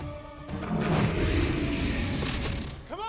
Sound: roars

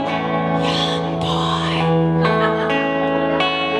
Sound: whispers

